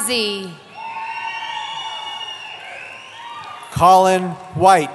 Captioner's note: cheering